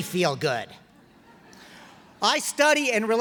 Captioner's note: laughter